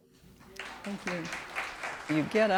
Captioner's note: applause